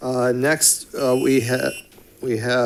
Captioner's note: alarm buzzes